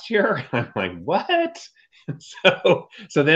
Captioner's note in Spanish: Riéndose